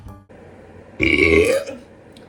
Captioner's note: good burp